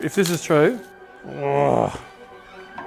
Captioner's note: unhappy noise